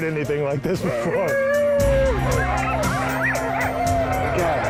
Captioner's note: dogs barking